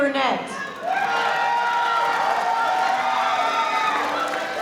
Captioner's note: crowd cheering